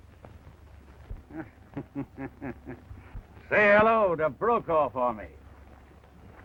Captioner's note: laughs